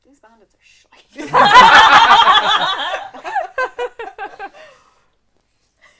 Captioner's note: laughter